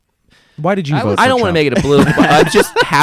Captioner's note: laughs